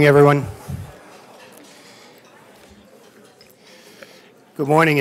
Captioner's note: sound of crowd settling